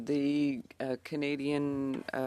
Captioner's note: speaking French